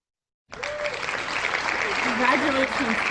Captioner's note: loud applause